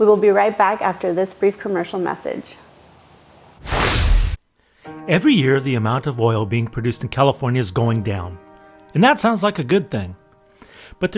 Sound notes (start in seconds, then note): 3.6 graphics whooshing; 4.8 calm music